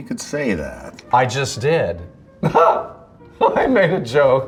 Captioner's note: chuckles; laughs